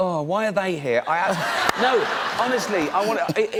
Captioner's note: laughter